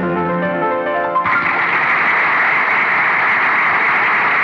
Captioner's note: Crowd Applauding